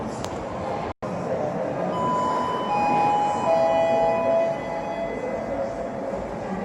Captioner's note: chime